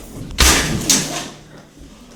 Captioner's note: crash